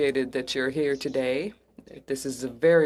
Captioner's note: speaking French